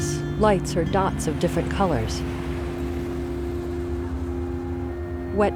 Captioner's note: distant traffic passing